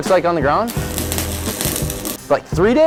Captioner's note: electrical sound